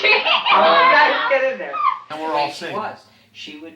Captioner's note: laughing